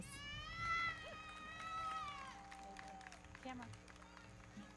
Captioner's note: audience cheering; everybody clapping